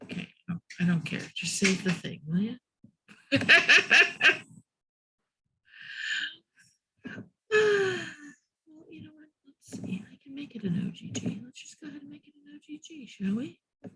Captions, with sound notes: Okay, I don't care, just save the thing, will you? (laughs) I can make it an OGG. We just got to make it an OGG, shall we?